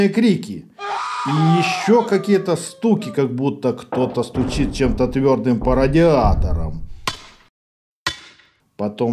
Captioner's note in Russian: крики с стуки